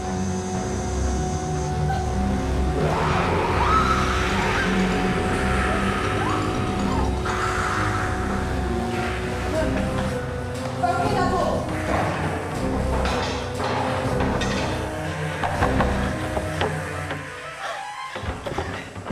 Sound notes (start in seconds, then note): 3.0 all screaming; 5.8 dramatic music; 12.9 dramatic music; 15.4 door banging